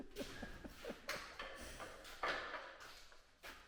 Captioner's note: laughs